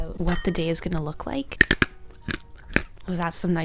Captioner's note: almond crunching